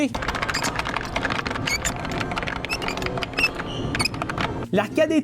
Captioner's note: button Mashing